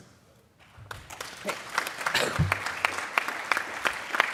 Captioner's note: applause